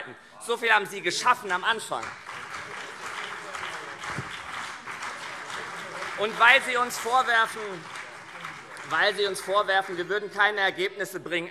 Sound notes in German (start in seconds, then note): 1.1 Beifall CDU und vereinzelt SPD - Zurufe AfD und BÜNDNIS 90/DIE GRÜNEN